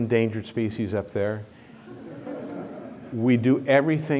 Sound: laughter

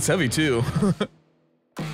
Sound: laughs

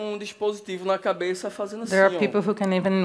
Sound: speaking Portuguese

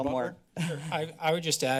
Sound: chuckles

